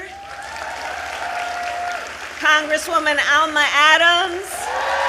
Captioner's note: applause